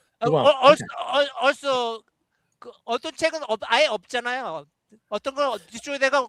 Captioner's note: speaking chinese